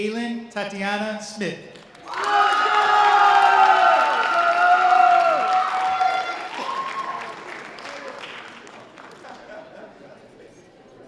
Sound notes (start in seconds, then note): 5.0 audience applause; 5.0 sustained audience cheers